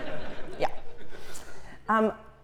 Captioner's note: laugh